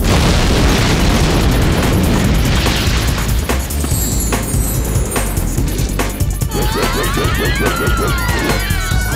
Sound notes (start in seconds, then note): 2.3 explosion